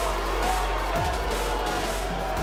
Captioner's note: cheers & boos